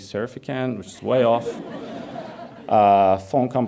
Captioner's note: audience laughs